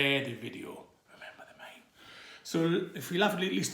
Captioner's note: whispers